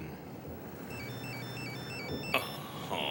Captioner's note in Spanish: telefone tocando